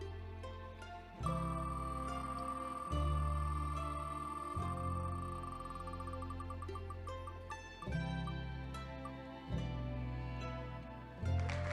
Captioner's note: wheel spins; hands clapping